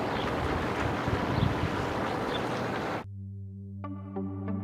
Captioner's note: bird chirps; mysterious music